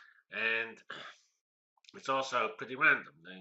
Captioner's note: cough